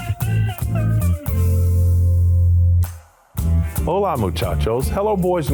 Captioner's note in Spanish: hablando en español